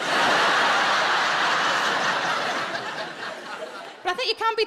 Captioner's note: audience laughing